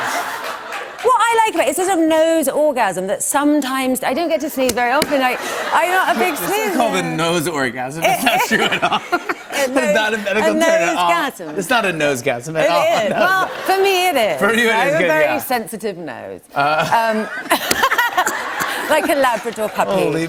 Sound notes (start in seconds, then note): 16.8 laughter